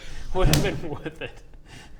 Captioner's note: clap